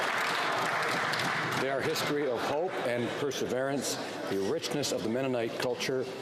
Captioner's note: some Applause